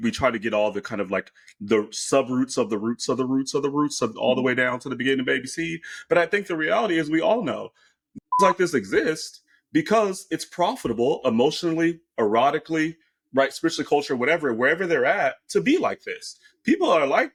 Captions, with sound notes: and we try to get all the kind of like, the sub-roots of the roots of the roots of the roots, all the way down to the beginning of ABC. But I think the reality is we all know, (beep) like this exists because it's profitable emotionally, erotically, right, especially culture, whatever, wherever they're at, to be like this.